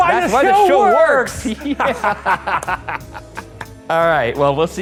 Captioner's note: laughing